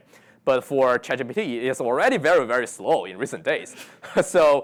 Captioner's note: laughs